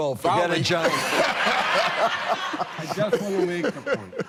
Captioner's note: laughter